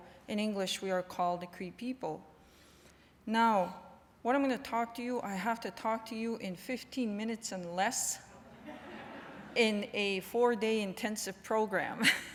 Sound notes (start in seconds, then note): 8.4 laughter